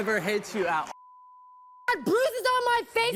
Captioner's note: beep